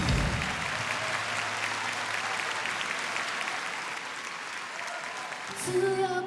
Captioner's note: applause